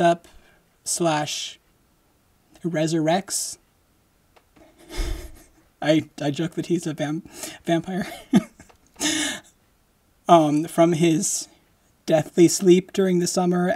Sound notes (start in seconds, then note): 4.7 laughing